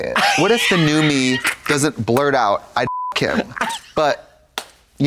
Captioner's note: beep